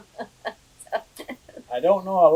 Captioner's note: laughs